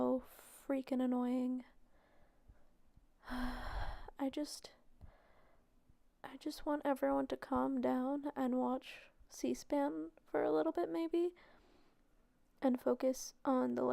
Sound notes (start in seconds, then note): 3.2 sigh